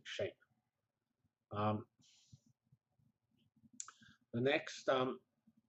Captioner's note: pause